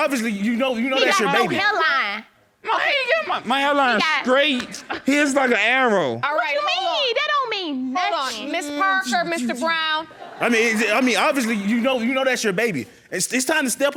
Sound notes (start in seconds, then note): 0.9 exclaiming; 9.8 audience laughing